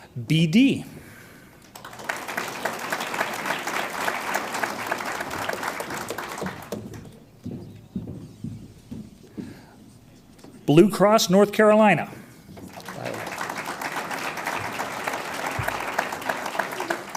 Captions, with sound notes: BD. (audience applauds) Blue Cross, NC. (audience applauds)